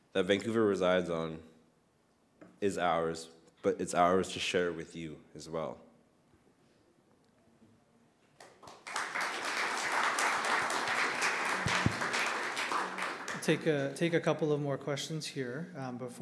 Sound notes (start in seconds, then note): 8.4 audience clapping